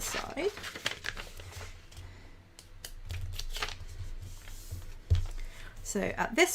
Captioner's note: paper rustling